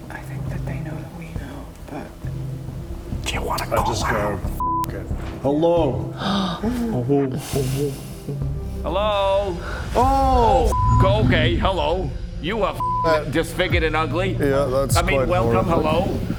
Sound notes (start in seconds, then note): 9.4 echo